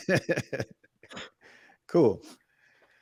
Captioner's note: laughter